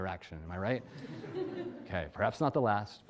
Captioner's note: audience laughs